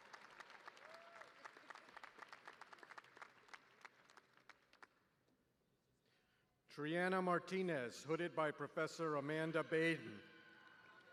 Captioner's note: cheers